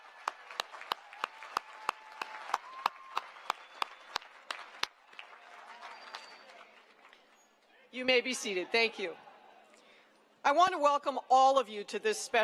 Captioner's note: cheering and applause